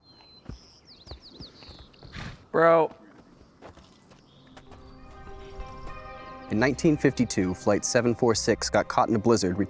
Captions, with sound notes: (birds chirping) [Pepper Whinnys] Bro. In 1952, Flight 746 got caught in a blizzard